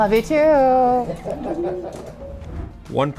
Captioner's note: laughing